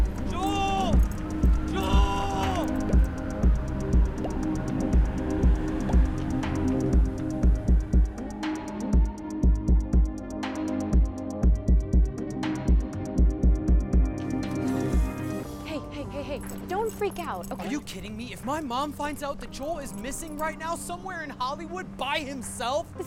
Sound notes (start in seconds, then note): 2.9 phone sound